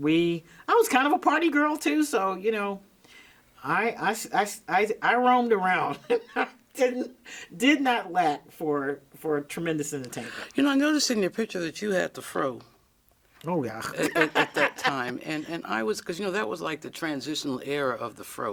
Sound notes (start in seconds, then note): 6.0 laughs; 13.9 laughs